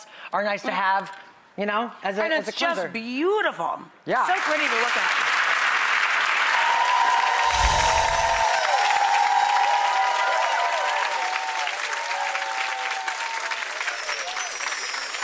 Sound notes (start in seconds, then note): 5.8 audience applause